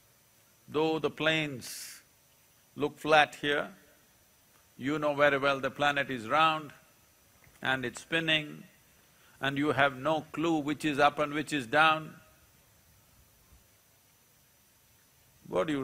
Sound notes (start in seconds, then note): none